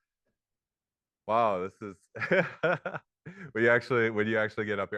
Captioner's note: laughs